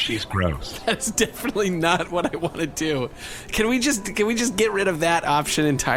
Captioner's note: laughing